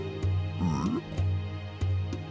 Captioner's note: friendly pigman noise